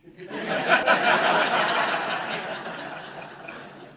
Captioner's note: audience laughing